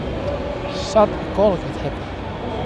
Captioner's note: sceptical mumbling